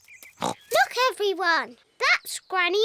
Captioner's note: oinks